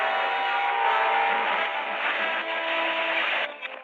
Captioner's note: aircraft scraping